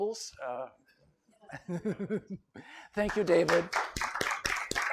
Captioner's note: laughter; applause